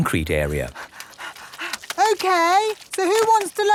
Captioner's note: panting